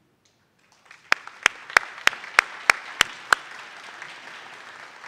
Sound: audience applauding

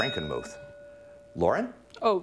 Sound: ding

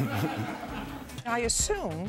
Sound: laughter

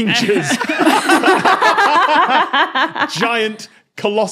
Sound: group laughing

